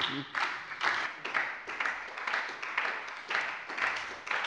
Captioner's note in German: Beifall bei der SPD